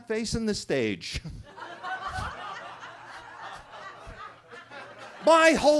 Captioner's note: attendees laughing